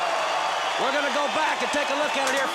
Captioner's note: crowd cheering